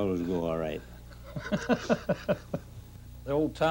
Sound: man laughing

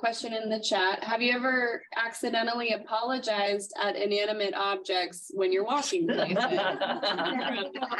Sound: laughter

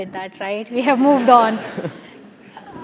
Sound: laugh

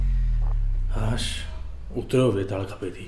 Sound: sighs

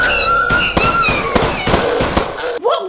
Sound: mumbling Screams; gunfire

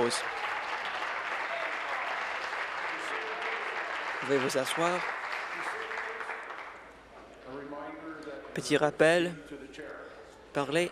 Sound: applause

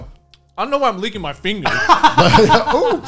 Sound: laughing heartedly

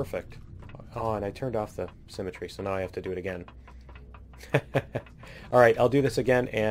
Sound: laughs

